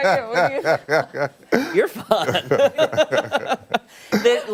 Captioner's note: laughter